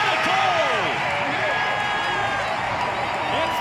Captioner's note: crowd cheering